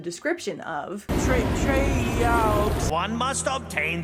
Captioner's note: reading spell language